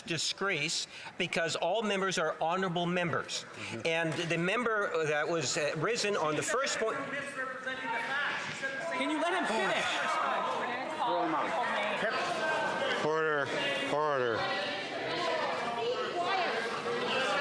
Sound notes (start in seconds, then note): 13.3 yelling